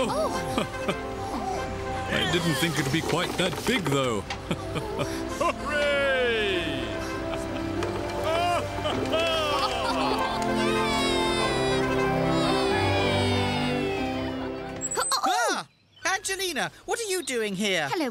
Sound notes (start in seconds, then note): 6.6 cheering